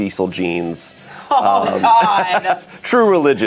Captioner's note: group laughs